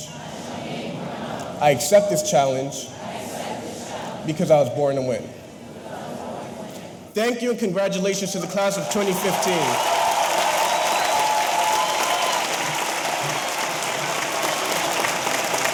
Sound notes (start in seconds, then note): 8.7 audience cheering; 8.7 audience applauding